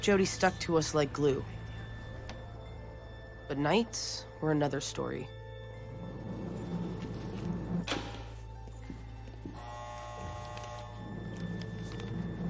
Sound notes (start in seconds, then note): 7.8 cell door unlatching and opening; 9.5 buzzer